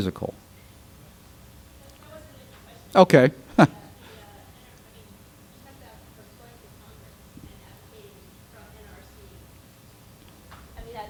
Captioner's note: laughs